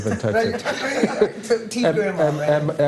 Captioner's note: all laughing